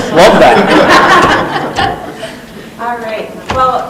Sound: laughing

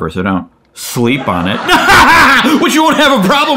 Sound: laughing

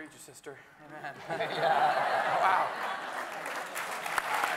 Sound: everyone laughing; everyone applauding

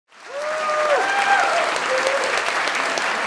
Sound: applause

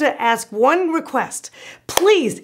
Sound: loud clap

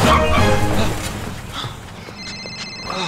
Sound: tire screech; phone ringing

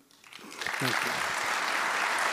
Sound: audience applauding

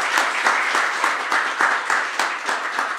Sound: applause

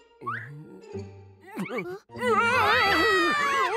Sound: screams; exclaims in alarm

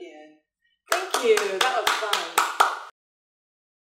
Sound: claps

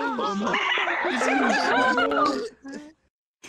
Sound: sadistic laughter

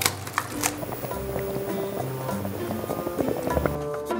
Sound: doenjang jjigae started to boil

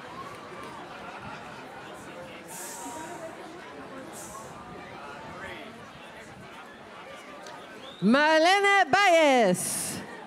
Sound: cheers and applause

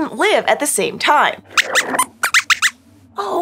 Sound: squeaks squeaks

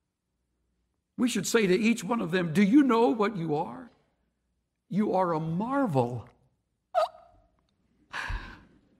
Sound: aaakk!!

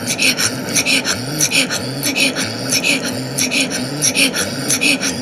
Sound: engine running

